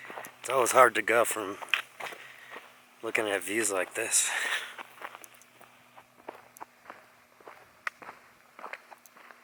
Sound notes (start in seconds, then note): 5.6 footsteps in gravel